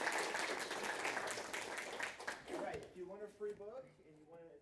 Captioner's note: audience applauding